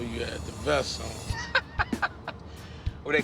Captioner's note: laughing